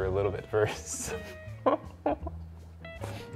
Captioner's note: chuckles